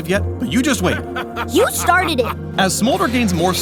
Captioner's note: Draven laughs